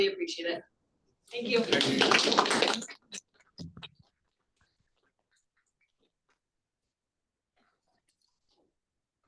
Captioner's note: applause